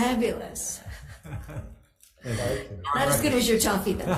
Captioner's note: members laugh